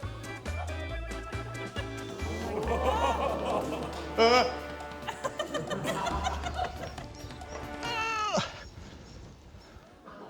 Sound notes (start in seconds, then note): 1.8 audience exclaims; 6.2 laughter; 7.9 strains